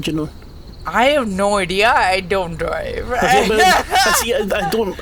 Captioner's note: laughs